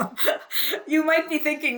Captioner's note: laughs